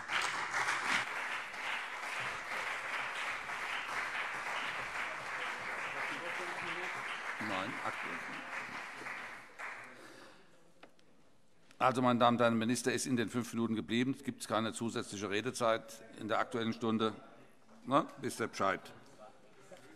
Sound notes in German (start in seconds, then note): 2.5 Beifall CDU und BÜNDNIS 90/DIE GRÜNEN